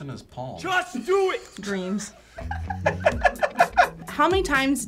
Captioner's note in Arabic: يضحك